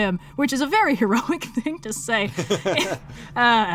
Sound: laughs

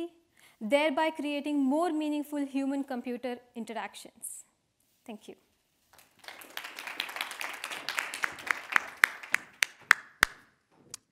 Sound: audience applauding

